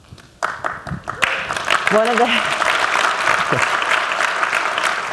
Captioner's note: applause